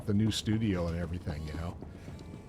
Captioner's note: none